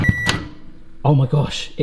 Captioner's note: microwave beeps